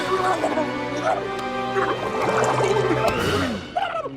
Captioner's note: gurgles; yells